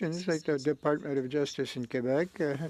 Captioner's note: speaking French